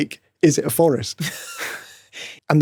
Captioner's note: chuckling